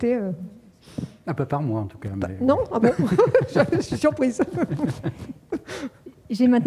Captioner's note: laughs